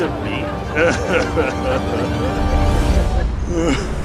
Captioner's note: sobbing